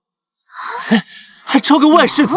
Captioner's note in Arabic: يضحك ساخرًا